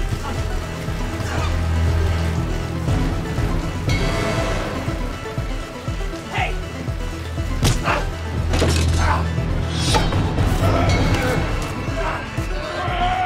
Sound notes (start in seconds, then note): 0.2 grunting; 7.6 blow thuds; 7.8 grunts; 10.5 both grunting